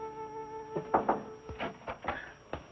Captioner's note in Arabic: طرق على الباب